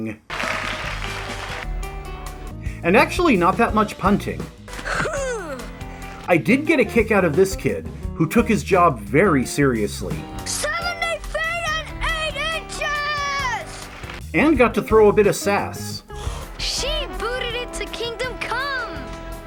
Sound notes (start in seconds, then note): 0.2 applause; 10.4 shouting